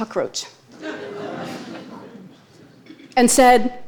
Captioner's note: audience laughing